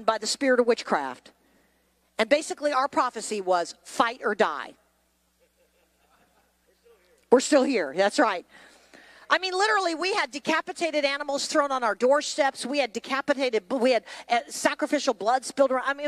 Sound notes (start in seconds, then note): 5.4 laughs